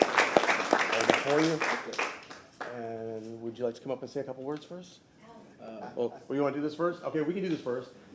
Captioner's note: applause